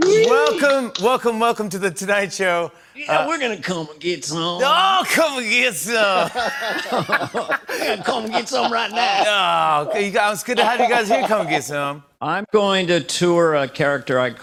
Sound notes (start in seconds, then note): 6.1 laughter